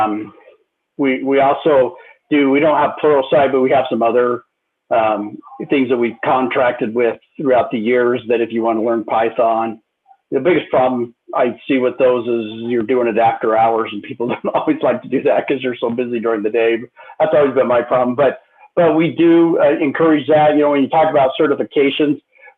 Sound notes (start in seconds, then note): 14.2 laughter